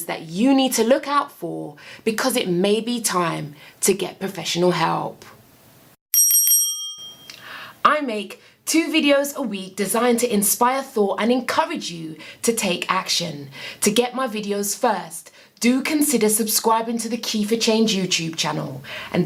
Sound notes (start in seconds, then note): 6.1 bell ringing